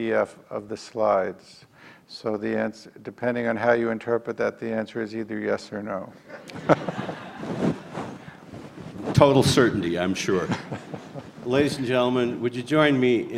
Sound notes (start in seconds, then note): 6.3 all laugh